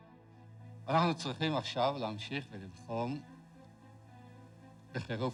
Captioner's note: speaking foreign language